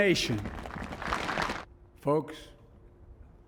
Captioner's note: cheering and applause